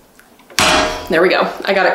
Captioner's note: press clangs